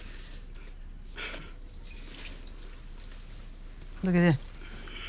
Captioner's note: sighs